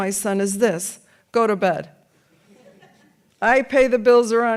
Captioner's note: audience laughs